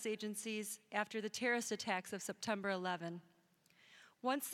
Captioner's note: none